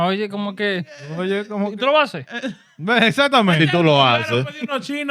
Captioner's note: speaking Foreign Language